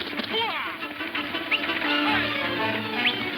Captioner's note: man whistles